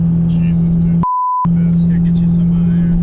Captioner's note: beep